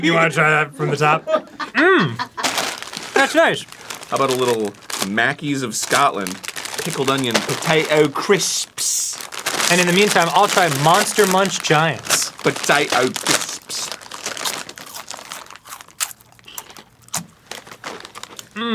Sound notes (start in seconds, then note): 14.5 crisps sound crispy as they are eaten